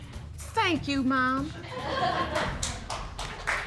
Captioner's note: audience applaud